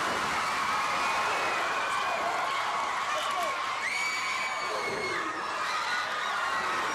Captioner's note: crowd cheering